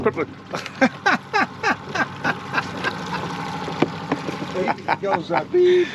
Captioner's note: laughing